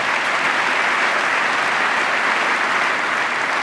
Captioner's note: applause